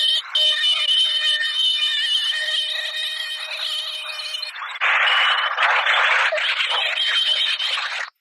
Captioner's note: landing gear & fire warning horns